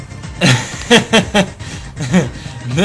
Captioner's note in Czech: směje se